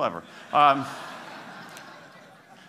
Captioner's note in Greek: Γέλια